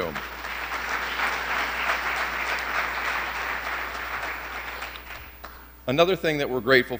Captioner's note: applause